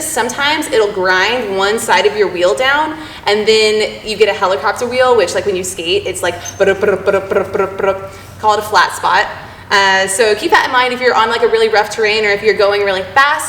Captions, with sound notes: sometimes it'll grind one side of your wheel down and then you get a helicopter wheel, which like when you skate it's like *bu-dup bu-dup bu-dup* Called a flat spot. So keep that in mind if you're on like a really rough terrain, or if you're going really fast.